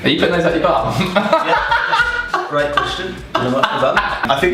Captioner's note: laughing